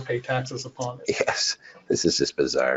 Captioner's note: laughs